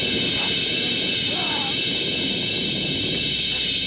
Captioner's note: yelling